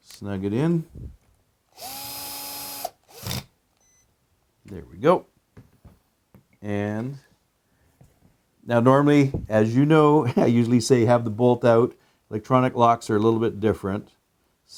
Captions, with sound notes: snug it in, (drilling) There we go. Now normally, as you know, I usually say, have the bolt out. Electronic locks are a little bit different.